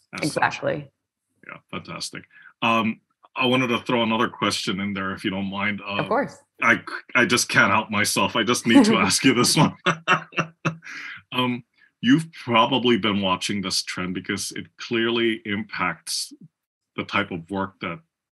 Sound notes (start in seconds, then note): 11.2 laugh